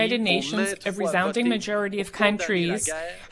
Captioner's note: speaking French